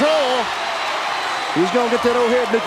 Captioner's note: audience cheering